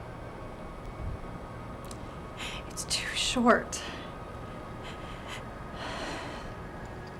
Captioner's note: sigh